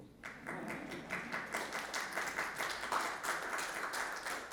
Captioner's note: audience clapping